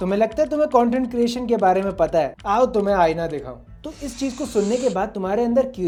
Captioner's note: laughs